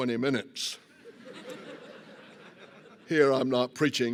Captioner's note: laughter